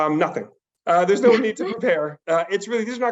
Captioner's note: laughs